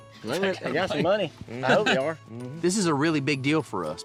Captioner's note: everyone chuckles